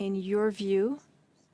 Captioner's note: speaking French